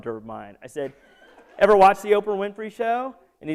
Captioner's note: laughter